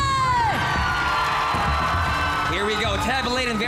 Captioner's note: audience cheering, clapping; tense music playing